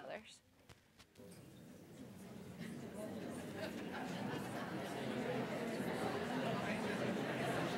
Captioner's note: indistinct chatter